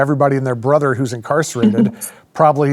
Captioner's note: laughs